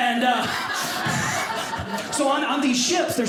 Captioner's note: audience laughing